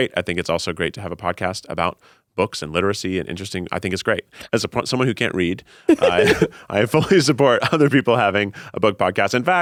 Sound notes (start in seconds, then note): 5.9 both laughing